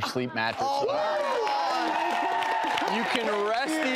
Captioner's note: all cheering